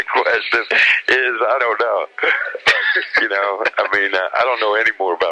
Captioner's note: laughs